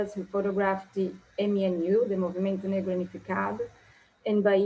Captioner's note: speaking in foreign language